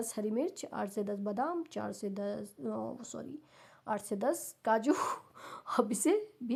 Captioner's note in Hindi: अचानक ज़ोर से सांस लेने की आवाज़